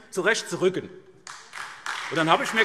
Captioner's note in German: Beifall SPD